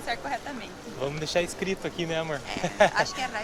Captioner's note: laughs